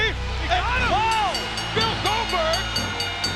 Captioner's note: bell rings